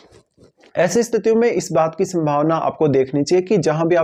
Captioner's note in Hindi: नाक से की जाने वाली आवाज़